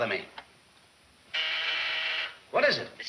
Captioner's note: intercom buzzing